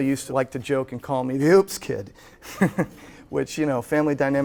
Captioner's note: chuckles